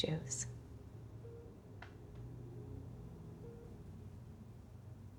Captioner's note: medical device beeping